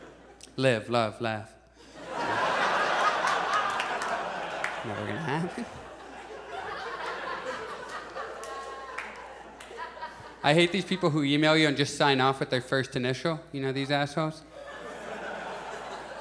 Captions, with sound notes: Live, love. Laugh." [Audience laughs] Never gonna happen. [Audience chuckles] I hate these people who email you and just sign off with their first initial. You know these assholes? [Audience chuckles]